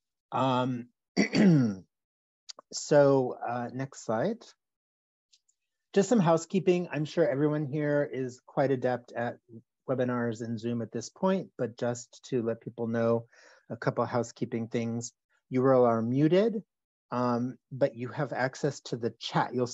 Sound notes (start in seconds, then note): 1.2 clears throat